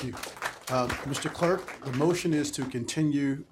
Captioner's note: applause